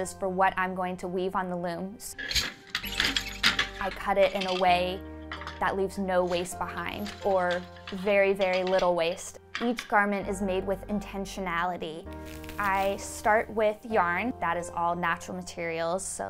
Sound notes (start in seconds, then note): 2.1 parts rattle; 2.2 loom squeaks